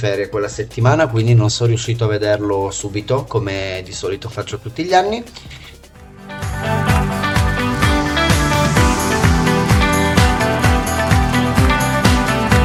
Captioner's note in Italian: Applauso